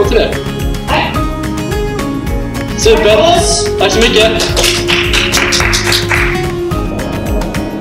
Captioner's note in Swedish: Klappar händerna